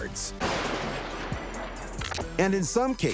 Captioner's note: explosion blasting